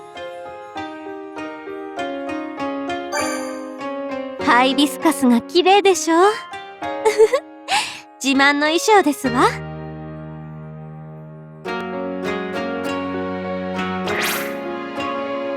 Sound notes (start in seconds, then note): 7.0 chuckle